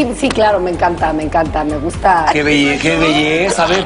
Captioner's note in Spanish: risas